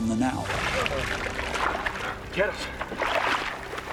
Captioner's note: splashing water